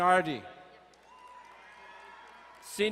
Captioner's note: crowd cheering and applauding